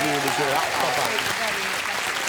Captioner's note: applause